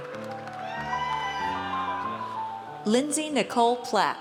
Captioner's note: audience cheers